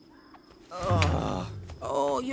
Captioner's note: sighs